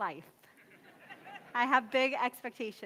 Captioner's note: audience laughs